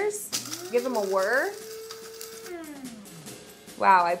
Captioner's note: grinder whirring